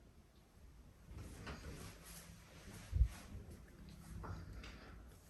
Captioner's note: footsteps rustling